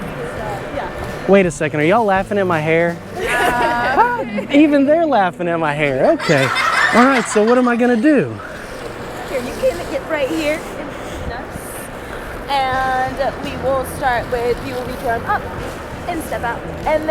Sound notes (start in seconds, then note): 3.1 laughing; 6.0 children's laughter